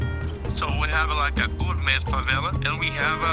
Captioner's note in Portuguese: homem em inglês